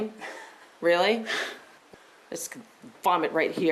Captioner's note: laughs